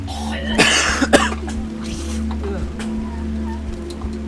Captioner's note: coughing